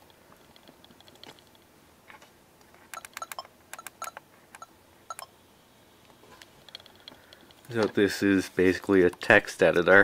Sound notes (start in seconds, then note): 2.9 beeps from camera